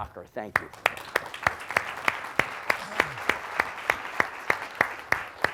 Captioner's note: applause